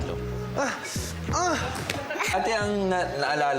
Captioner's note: grunts